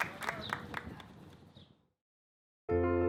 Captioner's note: applause